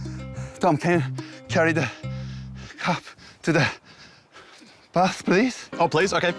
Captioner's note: panting